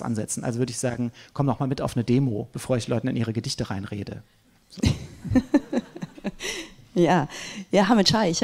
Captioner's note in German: gelächter